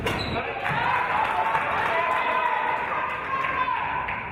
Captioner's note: applause and cheers